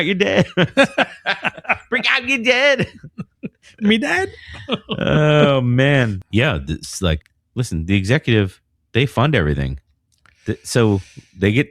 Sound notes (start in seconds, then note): 2.8 uh